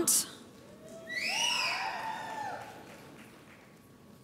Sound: audience applauds

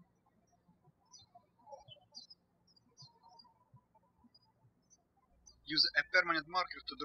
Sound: birds chirping

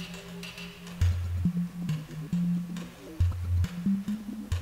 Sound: weeping

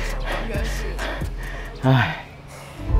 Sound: panting

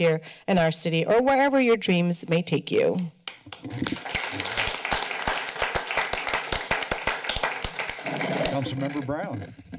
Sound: applause

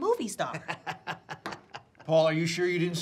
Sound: laughs

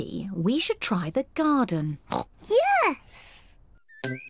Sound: oinks

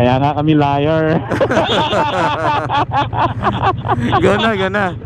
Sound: group laughing

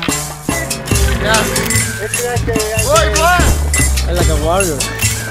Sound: group chattering

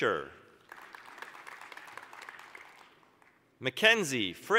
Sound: applause

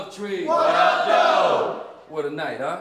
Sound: crowd

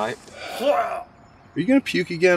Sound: dry heave

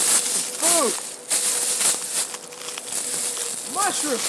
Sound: leaves rustling

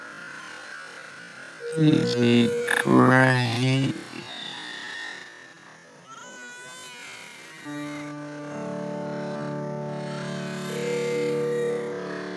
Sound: Lilo and stitch, brother bear, barbie Mattel doll crying continues

